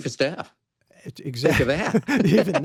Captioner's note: laughing; laughs